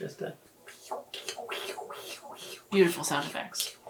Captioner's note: imitating squishing